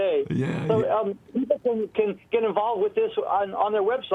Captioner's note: voiceover; voiceover